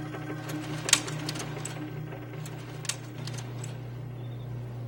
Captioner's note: clicking